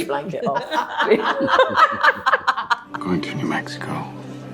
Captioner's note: everyone laughing